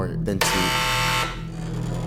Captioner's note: door buzzing